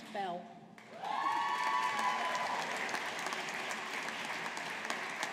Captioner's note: audience applauding